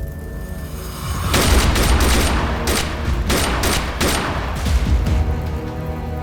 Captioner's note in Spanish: Disparos